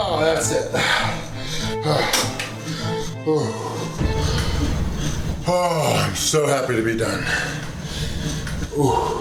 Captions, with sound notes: That's it. (groaning) I'm so happy to be done.